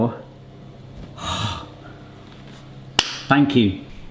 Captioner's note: sighs; hands slap